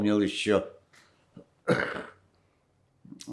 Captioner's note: coughing